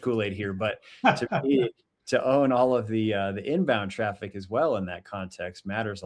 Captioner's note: chuckles